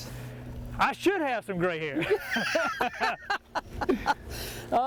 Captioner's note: laughs